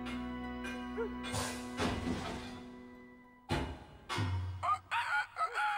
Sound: distant Pounding, Clinking; rooster Crows

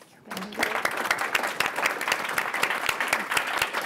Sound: applause

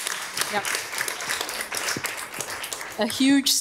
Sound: audience applauding

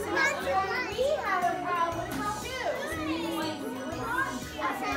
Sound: students speaking

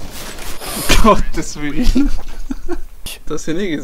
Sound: laugh

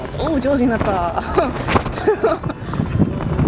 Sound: laughter

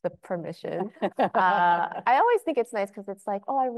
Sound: laughing

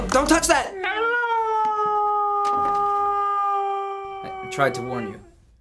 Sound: dog howls

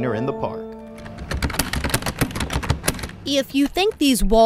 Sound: keyboard clicking

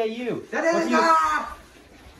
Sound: german screaming

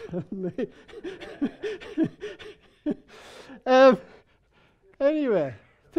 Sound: people laughing

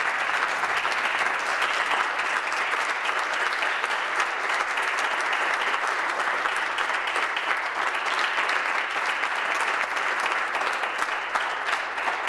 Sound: applause

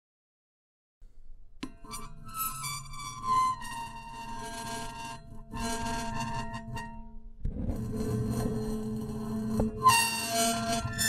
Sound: sound of metallic scraping

